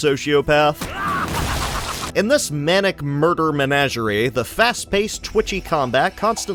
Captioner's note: gleeful murder noises